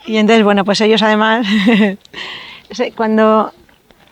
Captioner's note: laughs